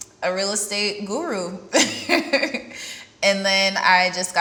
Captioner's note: laughs